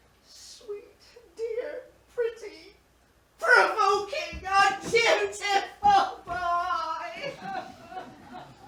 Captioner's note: wails